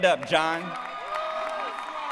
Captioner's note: applause